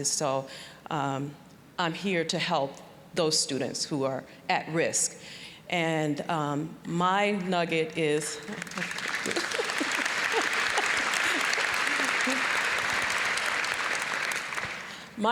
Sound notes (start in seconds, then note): 8.4 applause; 8.5 laughing; 11.4 applause